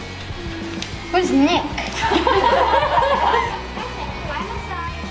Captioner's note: laughter